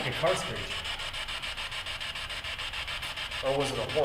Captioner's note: static buzzing